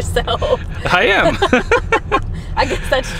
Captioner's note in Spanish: se ríen